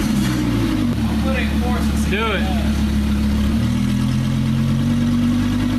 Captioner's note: 发动机